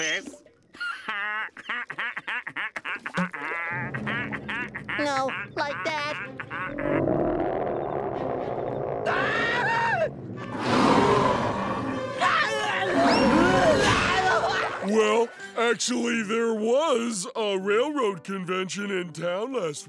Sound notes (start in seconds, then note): 0.7 laughing; 6.6 growling; 9.0 screaming; 10.3 roaring; 10.4 screaming